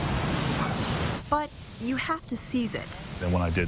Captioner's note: nat wind blowing